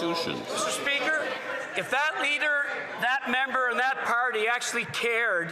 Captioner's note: some Applause